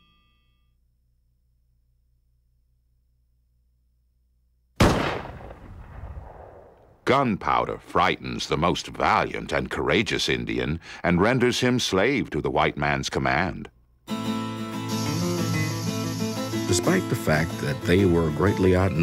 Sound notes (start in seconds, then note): 4.8 gun Shot; 14.1 spanish Music Playing